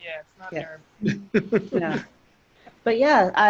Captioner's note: laughing